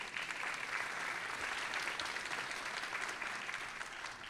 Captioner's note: audience applauding